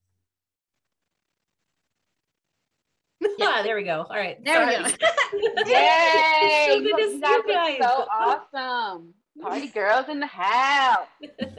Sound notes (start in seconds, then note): 5.4 overlapping excited chatter